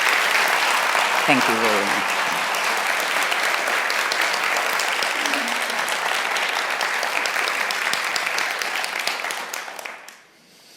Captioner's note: applause; laugh